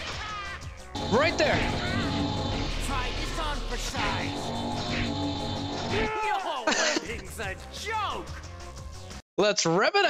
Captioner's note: laughter